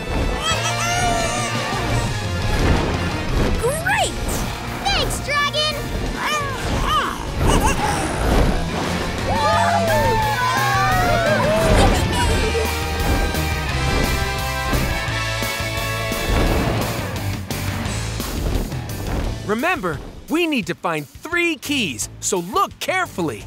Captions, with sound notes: [squealing] Great! Thanks, dragon! [squealing] [cheering] Yeah! Remember, we need to find three keys, so look carefully.